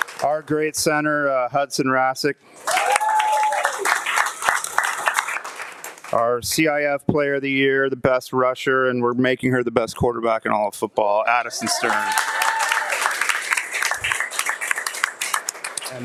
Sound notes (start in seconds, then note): 0.0 audience laughing and applauding; 2.6 audience applauding and cheering; 11.6 audience applauding and cheering